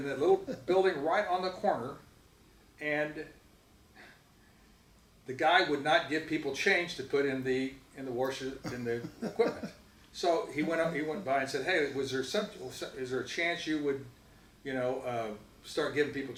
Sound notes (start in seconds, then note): 10.3 laughs